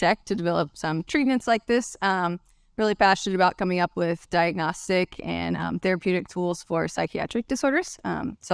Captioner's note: none